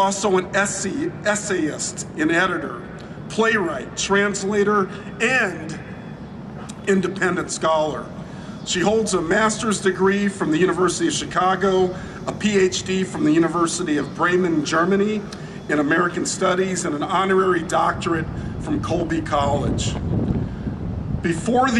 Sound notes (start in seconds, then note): none